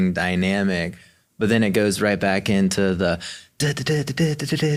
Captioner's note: vocalizes